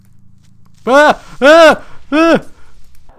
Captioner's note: panicked Screams